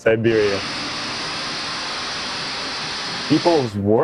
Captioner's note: snow plow clearing about 1 foot of snow